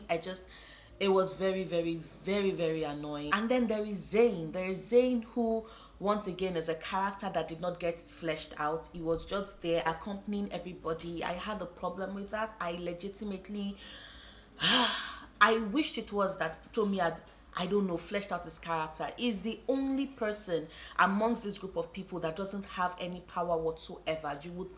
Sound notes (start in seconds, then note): 14.5 sigh